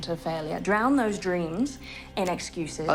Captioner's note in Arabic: none